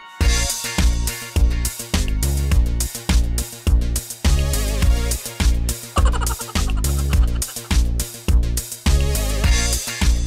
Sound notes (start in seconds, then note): 5.9 mouse laughing